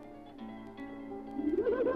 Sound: fish laughing

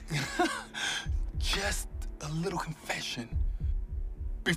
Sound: chuckling

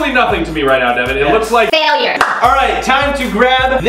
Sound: claps

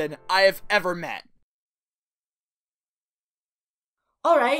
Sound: awkward silence

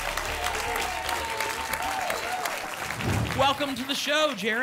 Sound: applause and cheering

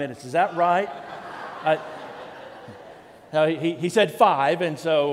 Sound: congregation laughs

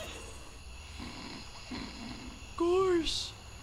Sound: snoring

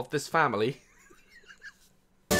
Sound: laughs

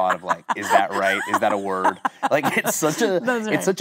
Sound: Kate laughing

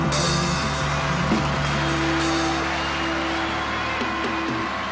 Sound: audience applauding

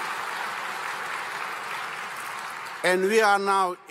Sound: applause

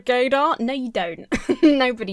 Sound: chuckles

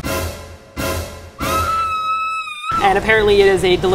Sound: high-pitched scream of horror

